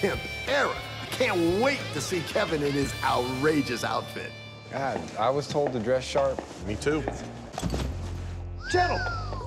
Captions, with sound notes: I can't wait to see Kevin in his outrageous outfit. I was told to dress sharp. Me too. [whistles] Gentlemen.